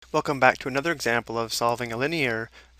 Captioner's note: voiceover